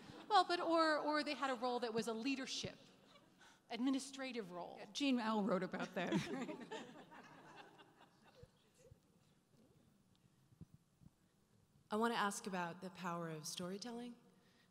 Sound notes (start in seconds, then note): 6.1 laughing; 12.1 voiceover